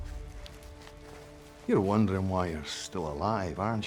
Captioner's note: scottish accent